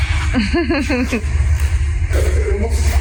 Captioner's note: giggles